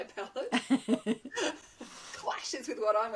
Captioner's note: laughing